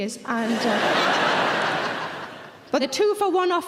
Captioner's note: audience laughing